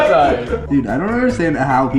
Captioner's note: chuckles